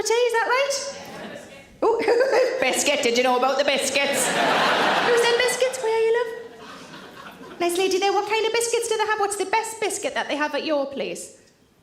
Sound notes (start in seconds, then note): 1.8 laughing; 4.5 audience laughing